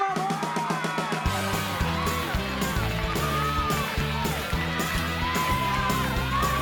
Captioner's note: crowd cheering; upbeat music